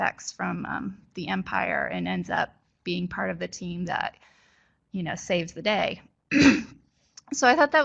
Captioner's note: clears throat